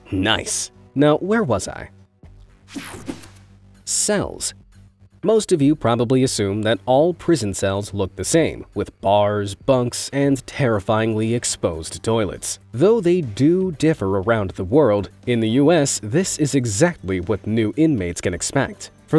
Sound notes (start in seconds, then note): 2.7 text whooshing